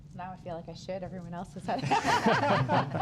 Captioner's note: rires